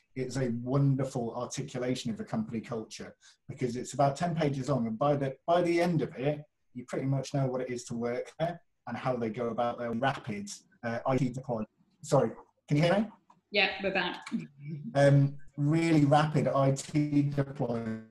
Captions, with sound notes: it's a wonderful articulation of the company culture because it's about 10 pages long and by the end of it, you pretty much know what it is to work there and how they go about their rapid (audio glitching). Sorry, can you hear me? - Yeah, we're back. - Really rapid IT deployment